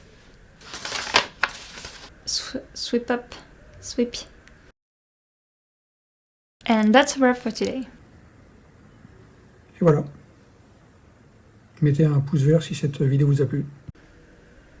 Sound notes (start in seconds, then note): 0.6 agressively turning pages